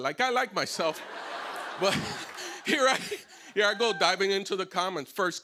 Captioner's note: laughter